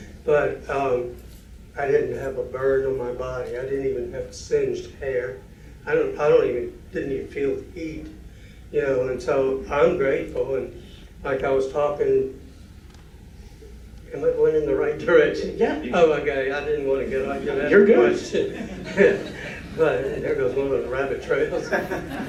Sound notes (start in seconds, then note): 17.1 laughter